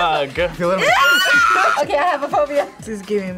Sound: screams

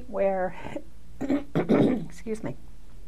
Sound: clears throat

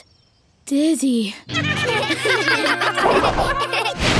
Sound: giggling

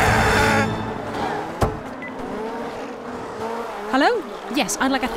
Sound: distant chaos

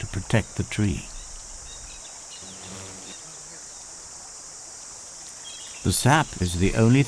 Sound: birds chirping

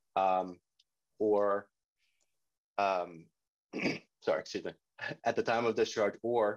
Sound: coughs

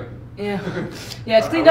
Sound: both laugh

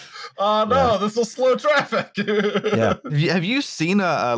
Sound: laughs

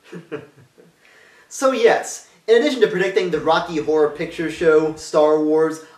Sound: chuckles

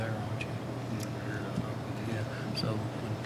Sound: faintly speaking

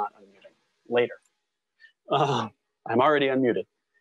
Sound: laugh

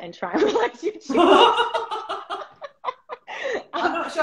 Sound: laughter

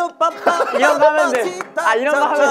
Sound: laughter

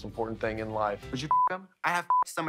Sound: beep

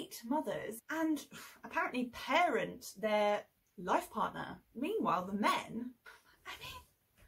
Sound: sarcastic

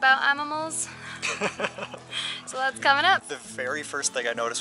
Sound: laughter

